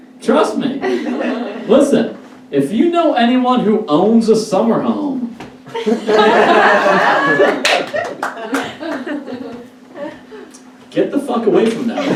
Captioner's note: audience Laughs